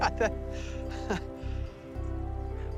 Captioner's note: laughs